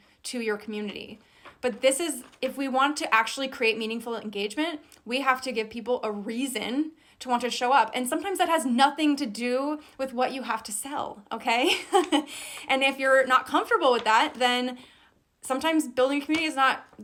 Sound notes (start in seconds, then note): 11.6 laughs